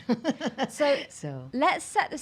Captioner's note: laughing